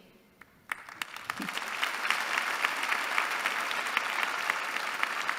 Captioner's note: applause